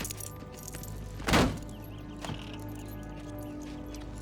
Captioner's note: door thuds; suspenseful music continues